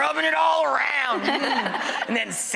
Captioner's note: laughing